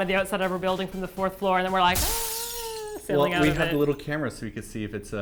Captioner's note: breaking glass